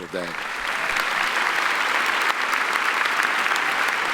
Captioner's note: applauding